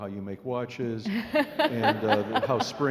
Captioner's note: laughing